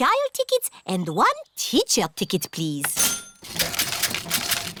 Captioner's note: cash register dings